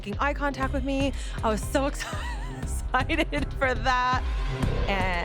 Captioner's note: laughs